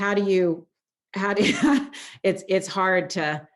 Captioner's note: laughs